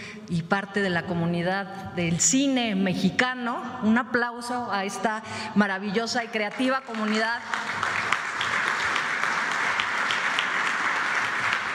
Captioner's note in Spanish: aplausos